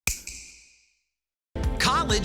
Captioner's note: snap